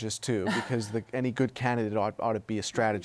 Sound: laughs

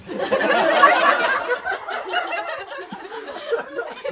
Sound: audience laughs

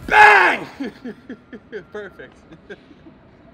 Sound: laughs

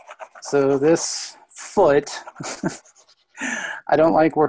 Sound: laughs

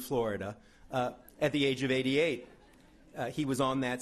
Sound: laughing

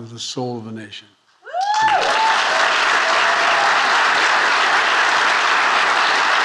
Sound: audiences cheer and applaud

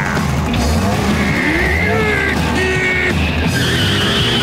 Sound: growling

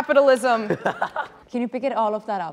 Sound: laughing

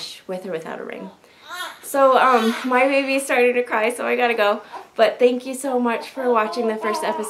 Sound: soft baby cry

